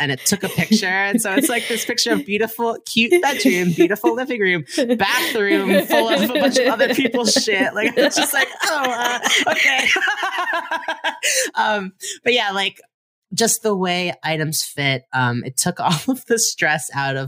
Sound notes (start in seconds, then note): 4.6 hearty laugh